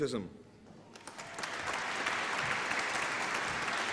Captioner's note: applause